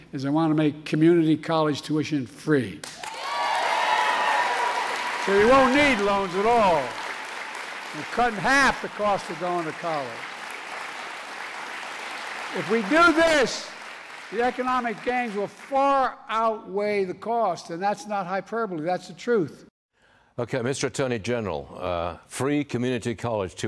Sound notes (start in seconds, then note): 7.7 cheers and applause; 15.0 applause